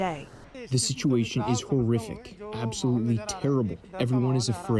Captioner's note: through translator